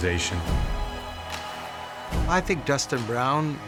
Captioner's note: cheering